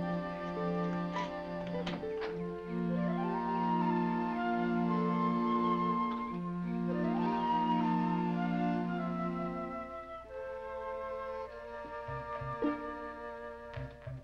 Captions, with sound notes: [ Coughs ] Coffee's not a bad idea. We can have a nice, quiet breakfast alone.